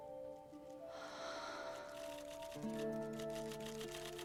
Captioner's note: sighs